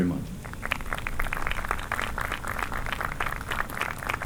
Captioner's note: applause